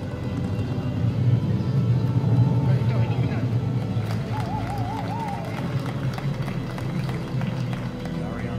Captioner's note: applause and cheers